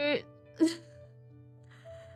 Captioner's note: sobs